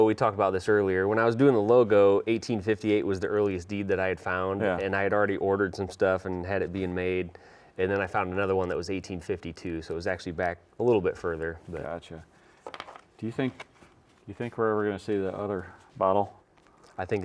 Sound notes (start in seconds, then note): none